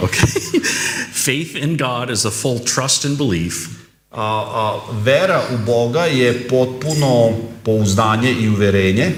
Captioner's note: laughter